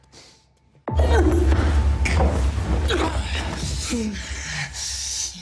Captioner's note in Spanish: Respiración agitada